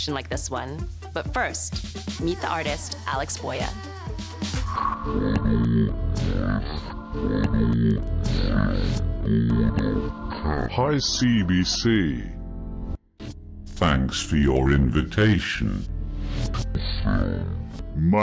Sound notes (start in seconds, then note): 5.7 low muffled voice